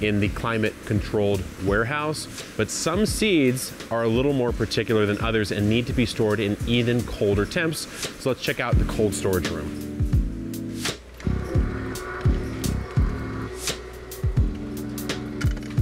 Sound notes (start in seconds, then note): 8.7 funky upbeat music; 11.1 door motor whirring